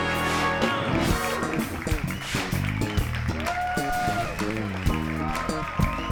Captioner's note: audience applauding; lively music continues